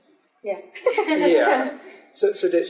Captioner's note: laughter